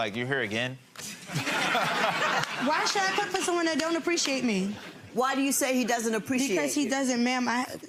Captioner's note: spectators laughing